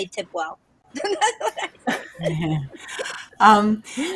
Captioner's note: laughs